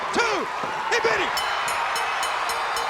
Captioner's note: bell ringing; crowd cheering